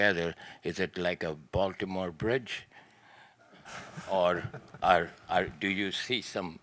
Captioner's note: everyone laughing